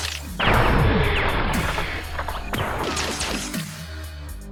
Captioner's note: explosion booms